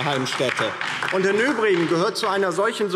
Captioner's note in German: Beifall DIE LINKE